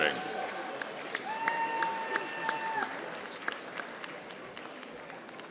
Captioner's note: audience applauding